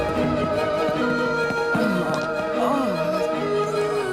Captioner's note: groaning